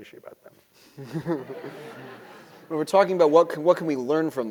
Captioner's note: laugh